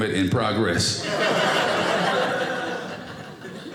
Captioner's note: audience laughing